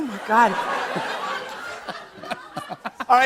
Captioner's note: laughter